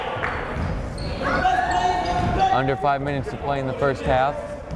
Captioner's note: yelling